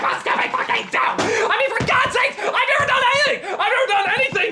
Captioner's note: becoming hysterical